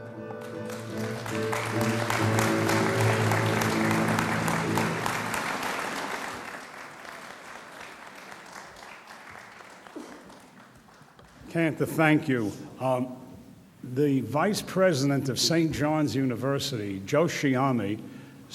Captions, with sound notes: (audience applauds) - Cantor thank you. The Vice President of St. John's University, Joe Sciame